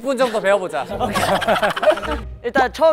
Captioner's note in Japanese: ｗｗｗｗ